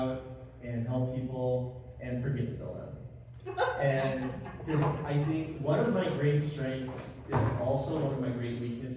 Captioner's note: laugh